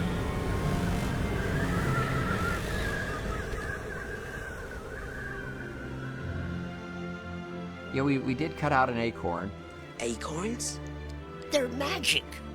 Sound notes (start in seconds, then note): 1.6 wind Howling